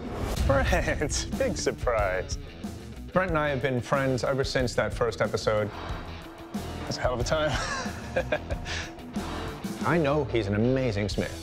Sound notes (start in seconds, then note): 7.4 laughter